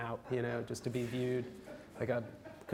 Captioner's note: audience laughs